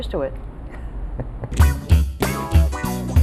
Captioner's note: laughs; funky upbeat jazz music